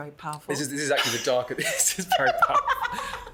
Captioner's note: laughs